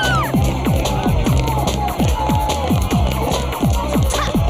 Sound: shouts

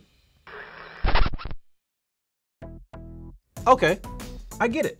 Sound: static crackling

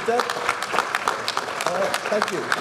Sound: speech drowned out by applause

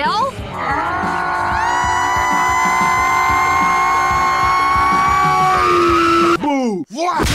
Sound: screaming intensifies

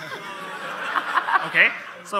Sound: crowd laughs

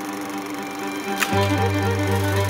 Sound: sound of projector whirring

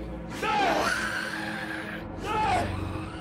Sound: yelling

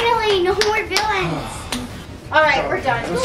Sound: clapping; sighs

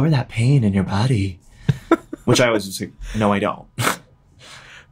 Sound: laughs

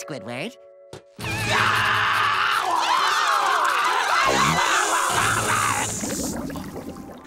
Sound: screaming

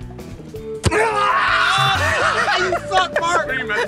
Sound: yells

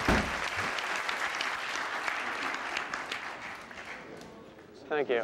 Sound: applause

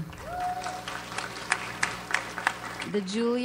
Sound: audience applauds

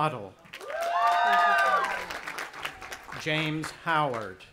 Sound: audience applauding and cheering

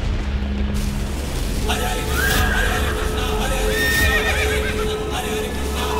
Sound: chanting

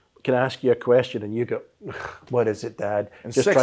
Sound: sighs

